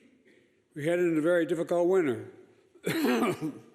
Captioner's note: coughs